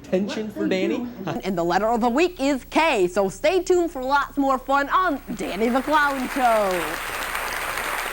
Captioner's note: applause